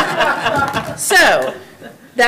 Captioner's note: everyone laughing